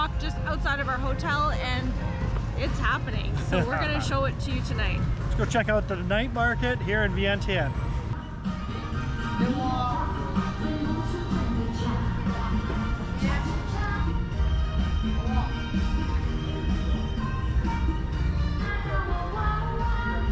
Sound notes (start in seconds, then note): 3.3 laughs; 8.1 upbeat music